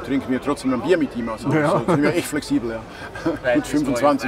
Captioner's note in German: lacht